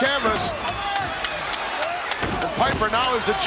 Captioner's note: Piper claps